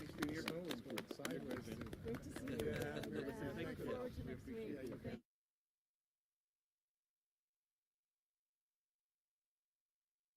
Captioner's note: applause